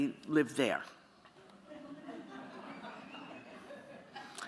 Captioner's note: laughter